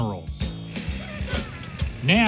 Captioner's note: laughs